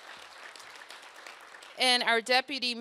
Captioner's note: applause